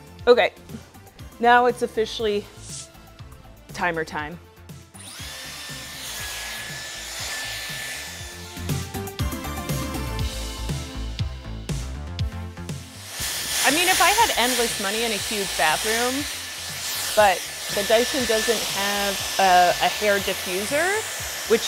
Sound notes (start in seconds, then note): 4.9 blow dryer humming; 8.6 upbeat music